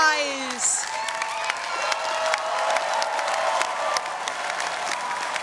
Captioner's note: audience cheering